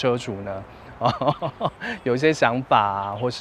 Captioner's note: laughs